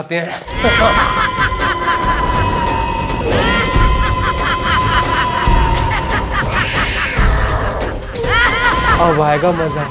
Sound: scary voice

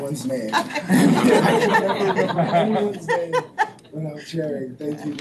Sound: board members laughing

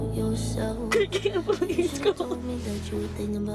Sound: sobbing

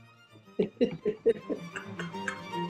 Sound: giggling

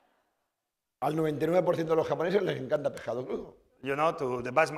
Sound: speaking spanish

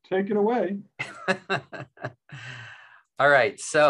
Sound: laughing

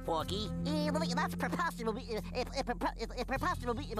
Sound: stuttering

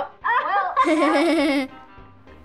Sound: laughing

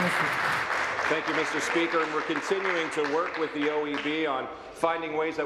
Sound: applause

